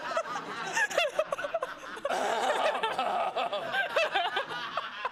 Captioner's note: laughter